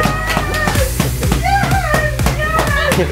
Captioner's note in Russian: крики